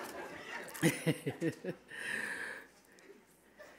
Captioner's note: all laughing; laughing